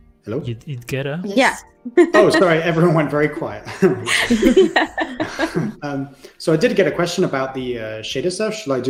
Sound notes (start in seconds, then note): 3.4 laughter